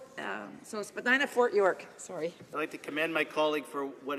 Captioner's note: speaking French